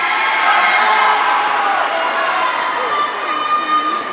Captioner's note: audience cheering